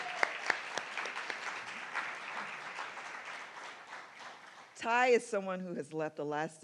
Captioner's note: applause